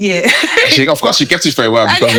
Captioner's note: laughing